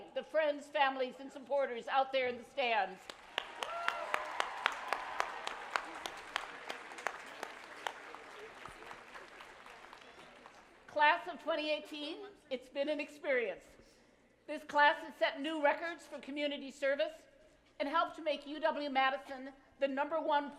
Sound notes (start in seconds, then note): 3.0 applause